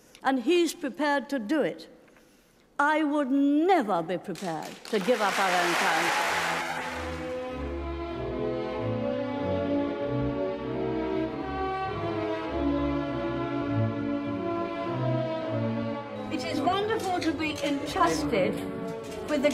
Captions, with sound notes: And he's prepared to do it. I would never be prepared to do give up our own currency! (audience clapping) (proud orchestral music) It is wonderful to be entrusted